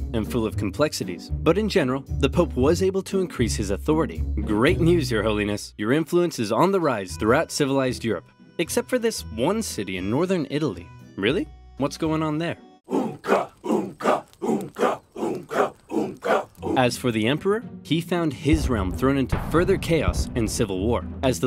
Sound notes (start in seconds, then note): 12.8 men chanting